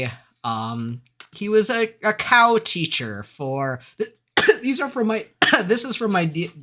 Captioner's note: cough